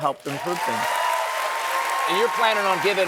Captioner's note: applause